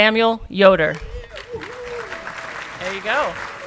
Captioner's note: audience clapping and cheering